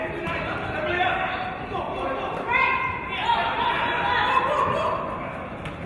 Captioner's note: audience and players yelling